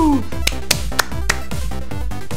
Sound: clapping

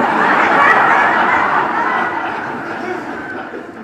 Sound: audience laughs

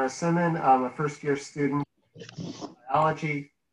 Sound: mic cuts off

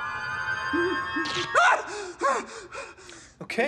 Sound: screams, pants

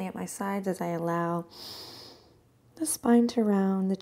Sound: inhales

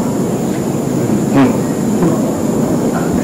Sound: chuckles

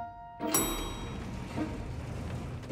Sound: ding

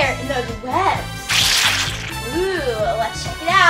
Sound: liquid squishes

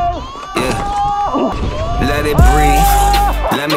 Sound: grunts; laughs

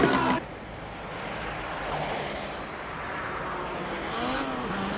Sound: applause

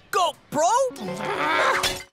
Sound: groaning

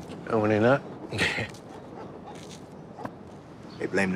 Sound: Douda chuckles; dog barking

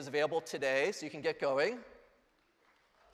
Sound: applause

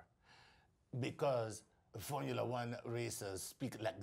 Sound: French accent

